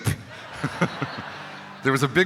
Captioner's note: laughing